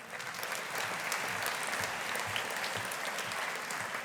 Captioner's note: audience applauding